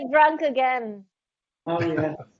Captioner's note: laughing